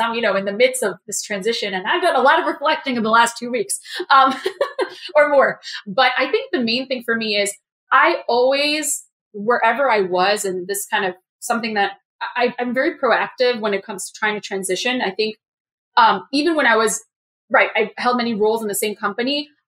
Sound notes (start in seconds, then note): 4.3 laugh